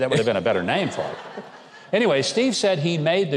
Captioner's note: audience laughs